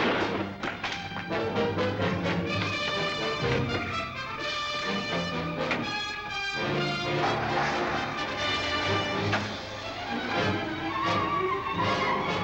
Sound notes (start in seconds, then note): 6.9 engine revving